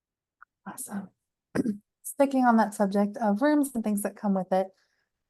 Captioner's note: cough